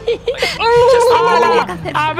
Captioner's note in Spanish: ruido con la boca